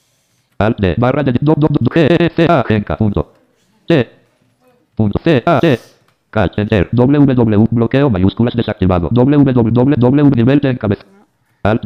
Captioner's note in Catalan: veu del lector de pantalla llegint la direcció